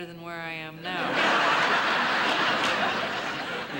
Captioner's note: audience laughing